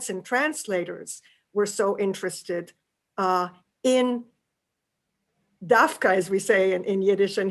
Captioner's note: yiddish